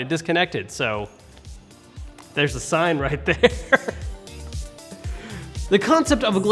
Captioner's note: laughs